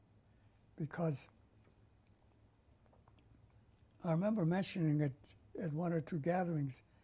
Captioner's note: pauses for 3 seconds